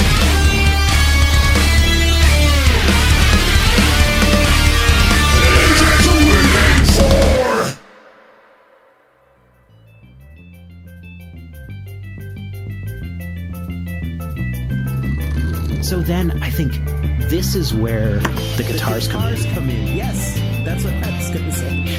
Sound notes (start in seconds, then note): 0.3 metal music; 11.8 sliding across room